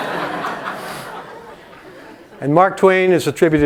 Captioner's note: laugh